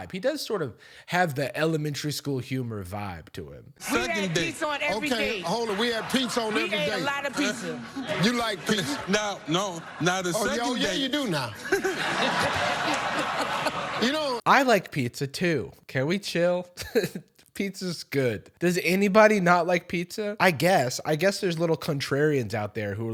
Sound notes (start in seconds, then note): 11.7 crowd laughing; 16.8 chuckles